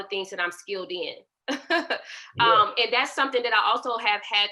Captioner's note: laughter